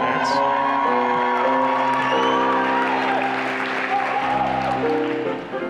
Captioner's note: wild cheering